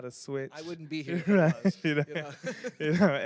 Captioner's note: laughing